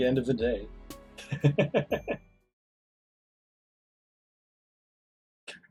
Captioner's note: laughs